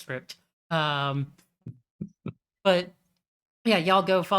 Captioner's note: chuckles softly